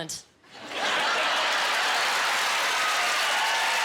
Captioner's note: cheering